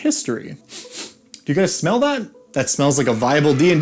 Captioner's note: sniff